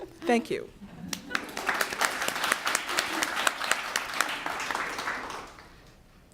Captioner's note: applause